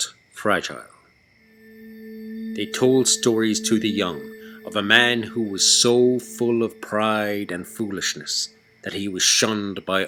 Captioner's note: eerie tone